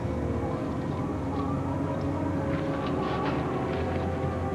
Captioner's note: leaves rustling